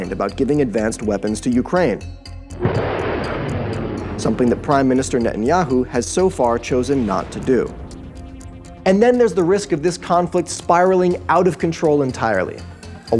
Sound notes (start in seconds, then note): 2.6 missiles roaring